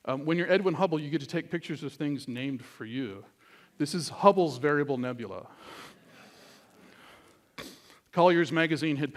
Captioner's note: laughter